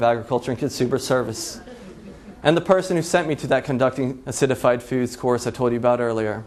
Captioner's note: laughs